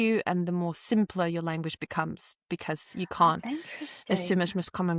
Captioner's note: none